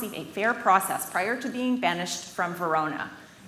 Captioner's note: none